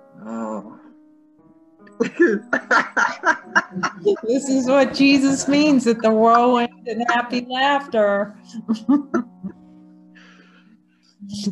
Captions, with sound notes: [Laughter] This is what Jesus means that the world ends in happy laughter.